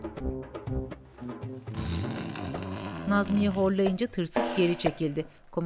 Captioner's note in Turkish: Horlama sesi